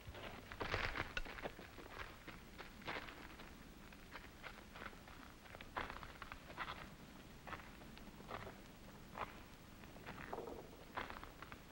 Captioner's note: foot Steps